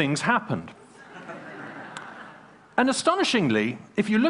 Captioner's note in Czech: Smích